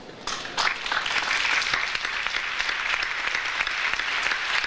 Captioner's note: audience applauds